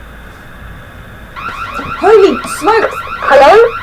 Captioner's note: radio alarm going off